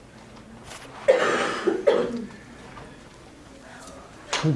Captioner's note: coughing